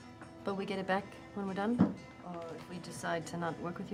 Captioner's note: none